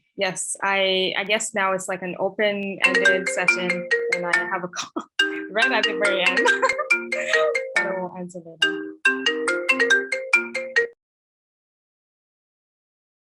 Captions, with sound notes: Yes, I guess now it's like an open-ended session. [ringtone] And I have a call! Right at the very end. [laughs] I don’t want to answer that though.